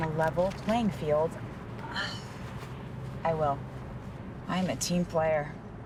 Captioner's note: exhaling